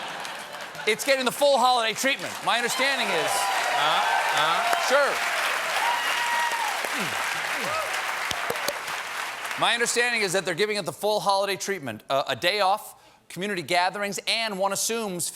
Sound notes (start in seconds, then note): 6.1 cheers and applause